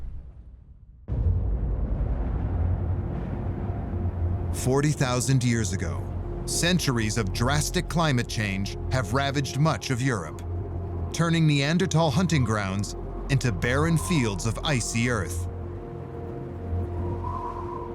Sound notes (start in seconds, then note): 1.0 deep rumble; 15.2 wind howling